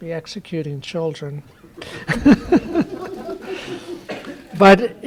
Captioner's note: laughter